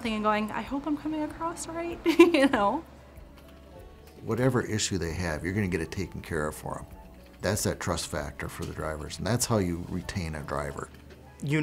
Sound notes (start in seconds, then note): 2.0 laughs